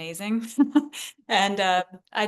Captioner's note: laughs